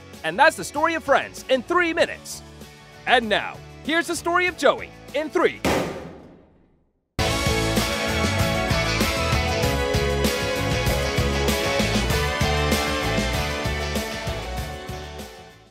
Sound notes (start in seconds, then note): 5.6 bang; 7.2 upbeat music